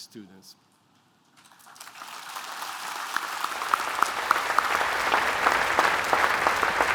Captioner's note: applause